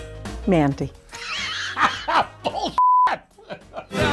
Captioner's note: laughs